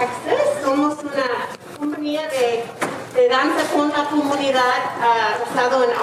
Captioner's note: speaking in foreign language